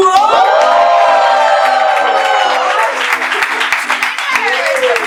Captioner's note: applause